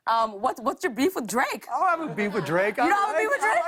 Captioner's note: laughter